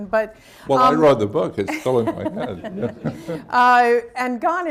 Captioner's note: laughter, laughs